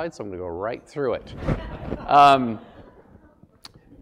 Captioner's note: laugh